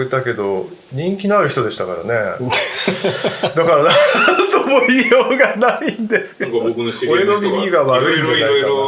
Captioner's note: laughing